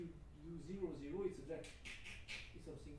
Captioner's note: scratching noise